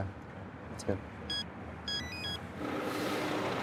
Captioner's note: device beeps